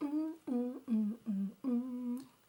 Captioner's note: appreciative sing-song, nom, nom noises